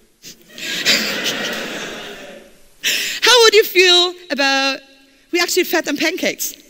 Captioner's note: laughter